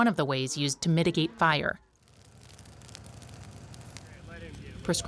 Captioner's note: grass burning